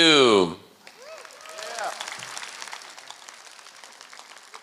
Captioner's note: applause